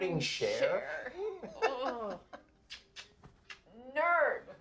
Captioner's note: roger laughs